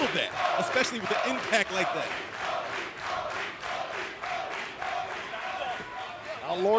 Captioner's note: crowd cheering